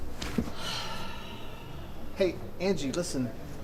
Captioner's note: sighs